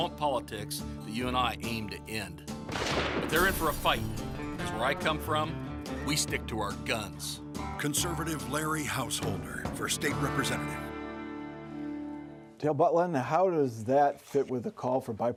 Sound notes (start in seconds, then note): 2.6 gunshot